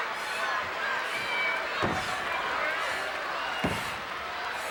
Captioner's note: audience chanting